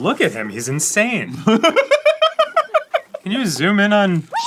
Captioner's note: cackling